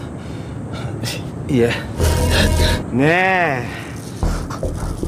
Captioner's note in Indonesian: terengah-engah